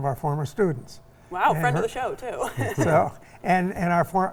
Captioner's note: laughs